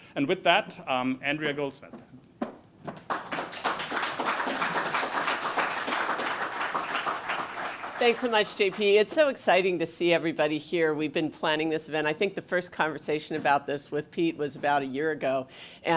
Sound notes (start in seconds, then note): 2.9 audience claps